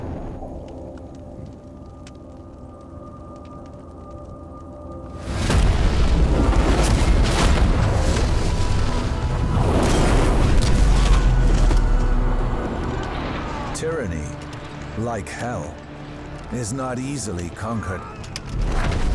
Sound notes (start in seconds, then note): 0.2 flames crackling; 5.2 explosions; 10.2 gunfire